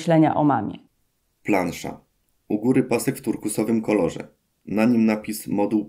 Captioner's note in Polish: Głos męski z offu, audiodeskrypcja planszy